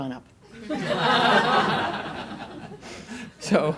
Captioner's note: audience laughs